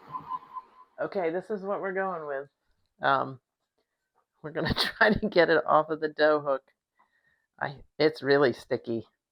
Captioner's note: laughs